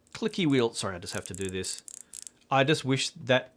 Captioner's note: clicks the wheel in front of the mic